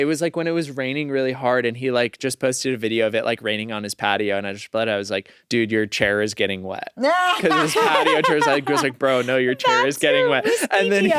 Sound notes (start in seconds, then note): 7.0 laughs